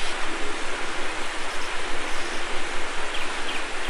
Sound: waterfall

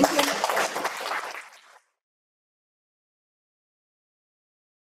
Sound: applause

